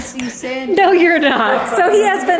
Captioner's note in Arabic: عائلة تضحك